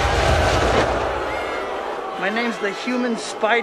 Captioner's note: crowd boos